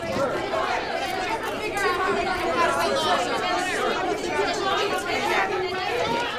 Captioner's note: reporters shouting